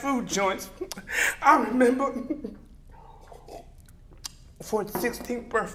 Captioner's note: sips